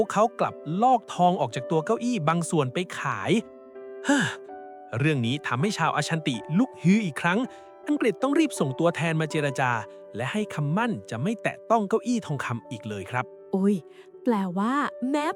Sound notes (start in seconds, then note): 4.0 sigh